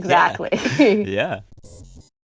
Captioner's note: laughter